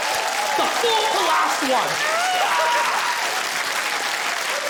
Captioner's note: screams; applause continues